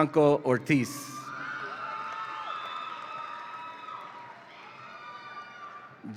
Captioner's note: audience applauds and cheers